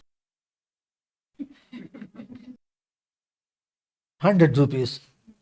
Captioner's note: laughs